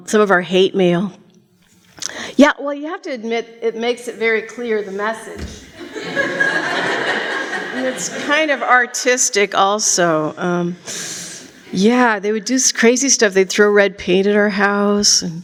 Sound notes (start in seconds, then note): 5.7 laughter